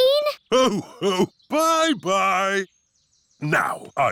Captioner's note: laughs